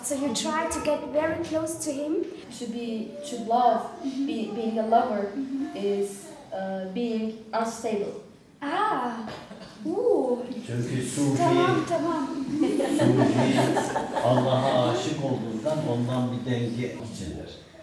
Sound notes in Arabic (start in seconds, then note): 11.0 بالتركية; 12.2 ضحك; 14.9 بالتركية